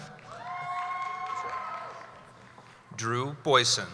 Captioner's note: cheering